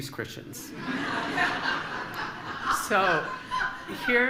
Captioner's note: laughter